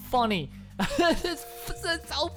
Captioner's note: laughter